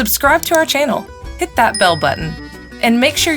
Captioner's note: bell ringing